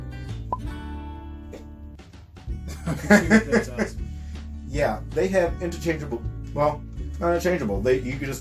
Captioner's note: laughter